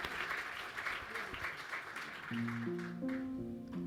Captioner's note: applause